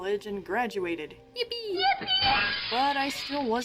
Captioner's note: exclaims, glass breaking